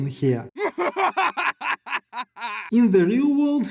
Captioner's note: evil laugh